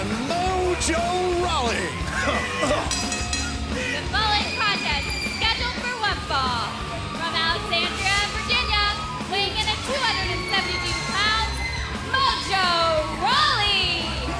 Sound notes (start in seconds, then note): 2.8 bell ringing